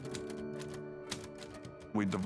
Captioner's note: typewriter clicks